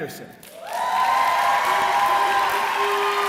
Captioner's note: cheering